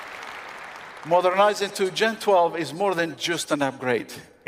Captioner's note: applause